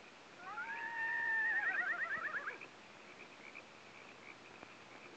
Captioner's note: horse whinnying in distance